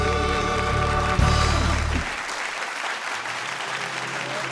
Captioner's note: audience applauding